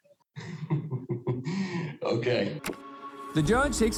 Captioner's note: chuckling